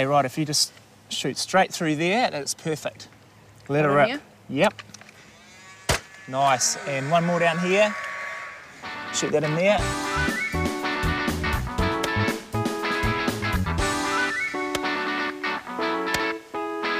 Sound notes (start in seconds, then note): 5.5 nailgun shot